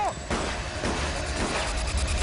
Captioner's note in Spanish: Disparos; Grita algo; Disparos